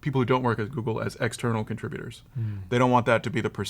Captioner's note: none